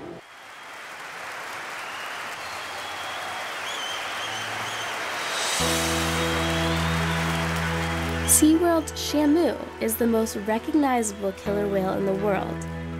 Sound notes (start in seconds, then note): 0.0 cheering